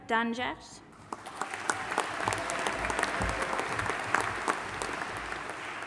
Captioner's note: audience applauding and cheering